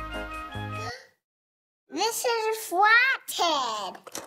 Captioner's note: gasp